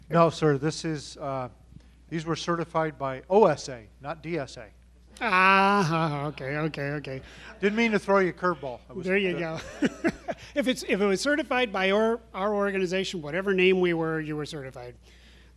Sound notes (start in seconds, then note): 9.0 laughs